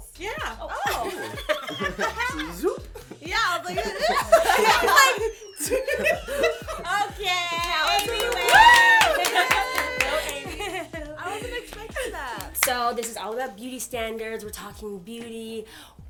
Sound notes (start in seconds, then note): 0.8 laughter; 7.6 applause